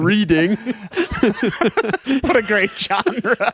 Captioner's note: laughing